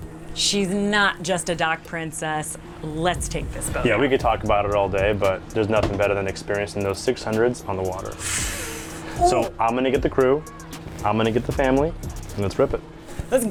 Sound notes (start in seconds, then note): 8.2 sighs